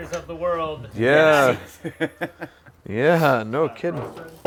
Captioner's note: guy laughs